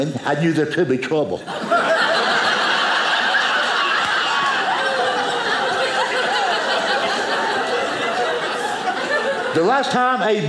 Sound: audience laughing

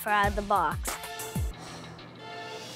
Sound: sighs

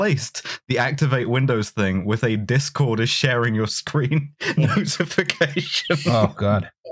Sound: laughing

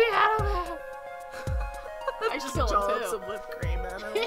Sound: laughs

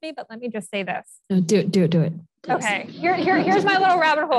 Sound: audience laughs

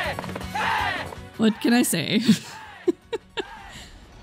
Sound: laughing

